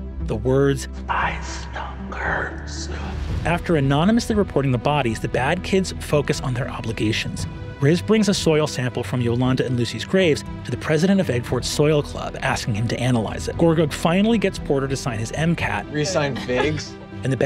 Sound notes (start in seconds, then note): 1.2 whispers